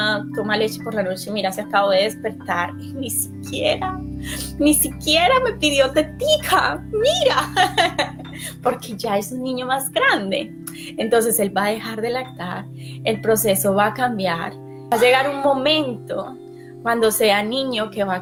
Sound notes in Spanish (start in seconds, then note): 7.8 simula llanto